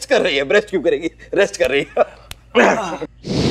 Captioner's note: Laughing